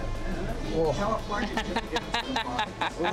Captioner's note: making weird noises